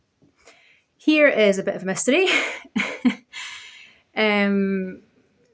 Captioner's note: laughs